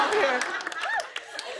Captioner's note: laughter